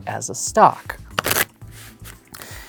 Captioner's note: cards riffling